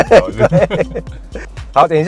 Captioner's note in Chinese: 哈哈哈